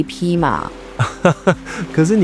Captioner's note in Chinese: 大笑